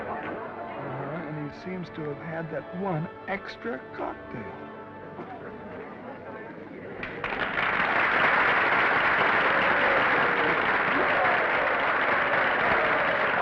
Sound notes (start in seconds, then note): 5.1 attendees chattering; 7.0 audience applauding; 7.8 attendees cheering